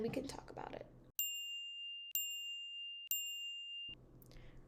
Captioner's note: timer chiming